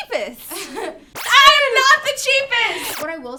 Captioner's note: yelling